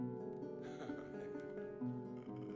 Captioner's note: chuckles